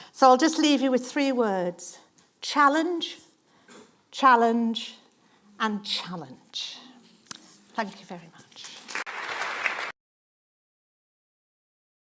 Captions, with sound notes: So I will leave you with three words challenge, challenge, challenge. Thank you very much. (Applause).